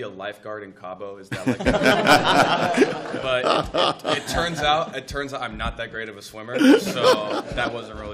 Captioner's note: laughter